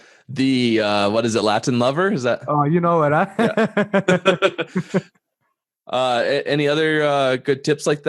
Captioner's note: laughter